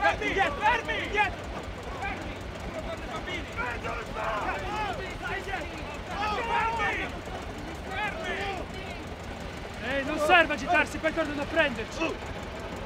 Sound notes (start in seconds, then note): 6.3 shouting at the military